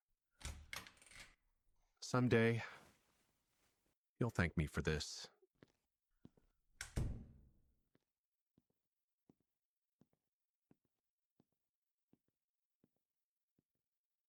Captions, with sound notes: (door opening) Some day... You'll thank me for this. (door closing)